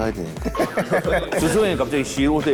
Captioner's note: laughing